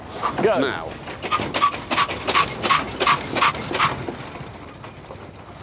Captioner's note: car stutters